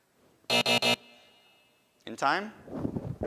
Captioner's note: end time buzzer rings